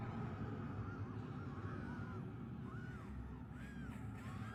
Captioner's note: people screaming